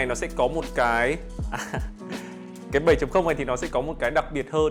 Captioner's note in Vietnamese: tiếng cười